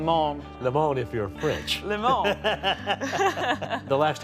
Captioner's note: laughs